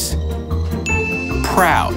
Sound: chimes

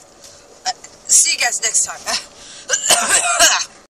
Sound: coughs one more time

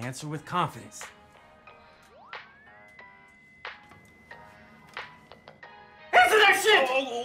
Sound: chiming continues

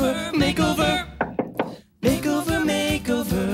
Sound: hand knocking

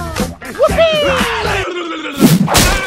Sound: battle cry

